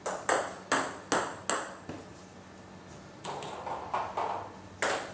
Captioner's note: balls ping pong hitting continues